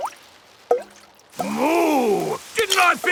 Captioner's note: water dripping